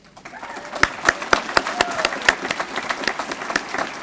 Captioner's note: applause